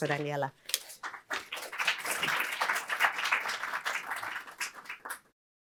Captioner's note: applause